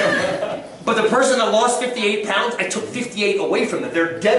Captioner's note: laughter